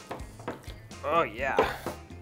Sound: stirring

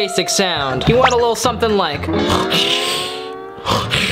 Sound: snorts

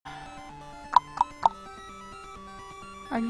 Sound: tongue clicking

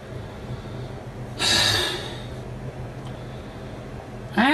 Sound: sighs

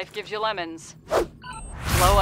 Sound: digital beep

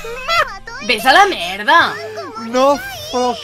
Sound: angery sounds

